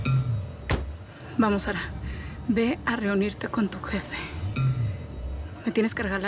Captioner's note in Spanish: portazo